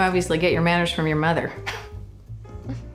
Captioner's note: chuckles